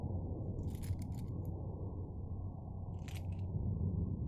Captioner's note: keys jingling